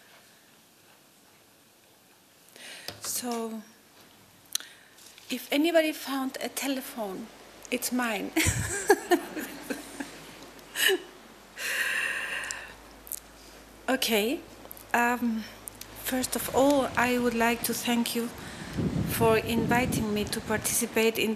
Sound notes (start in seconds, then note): 8.4 laughter; 10.5 water noises